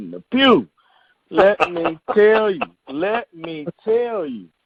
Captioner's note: chuckling